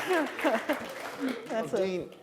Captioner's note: applause